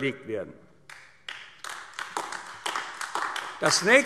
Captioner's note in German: Beifall AfD